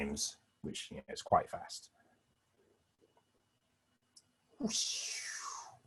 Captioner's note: whooshing sound